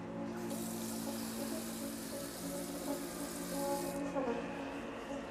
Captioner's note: water sprays